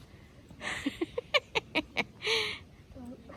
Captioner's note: giggles